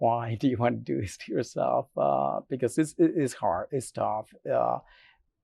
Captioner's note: none